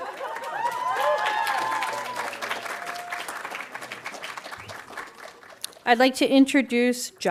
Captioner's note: audience cheering and applauding